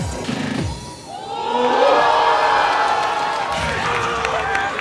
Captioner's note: crowd cheering